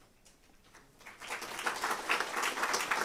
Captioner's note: applause